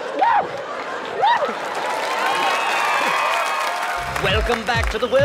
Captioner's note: screaming